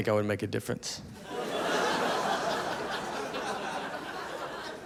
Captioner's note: audience laughing